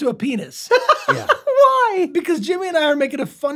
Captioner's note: laughs